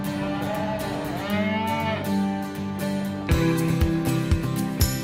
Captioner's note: cow moos